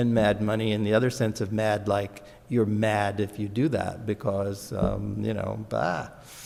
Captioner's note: none